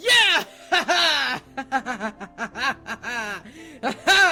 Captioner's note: laughing like a moron